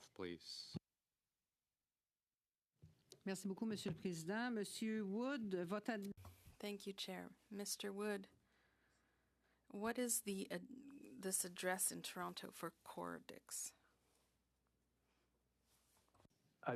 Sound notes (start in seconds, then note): 9.8 speaking French